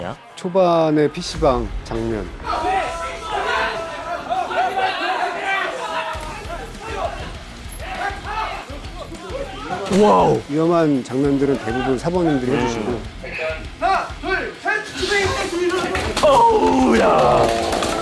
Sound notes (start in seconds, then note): 14.9 crashes